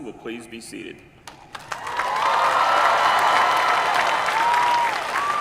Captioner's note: applause